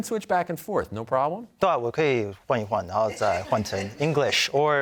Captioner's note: speaking Mandarin